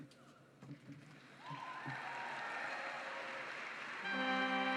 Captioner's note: applause; orchestra plays